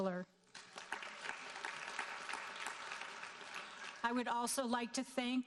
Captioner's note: audience applauding